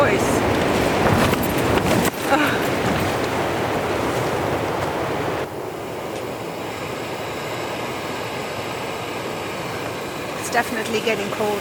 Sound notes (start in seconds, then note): 0.0 wind shaking the tent; 4.1 laughing; 5.7 sound of gas stove